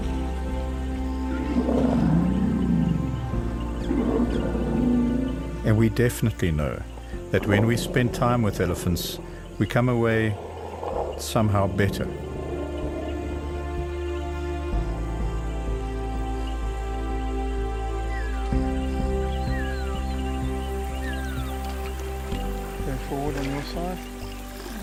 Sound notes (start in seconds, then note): 0.3 rumbling; 17.9 birds calling; 17.9 animals calling